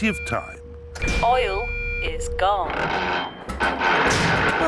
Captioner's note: creaking